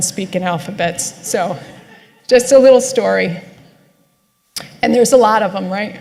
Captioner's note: laughter